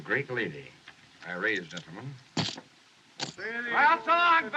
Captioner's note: chips Clatter